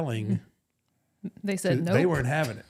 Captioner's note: laughing